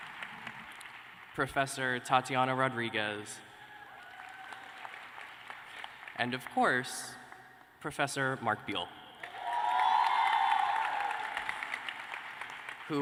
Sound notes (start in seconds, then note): 0.0 applause; 3.8 applause